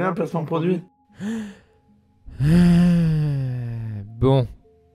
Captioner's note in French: soupire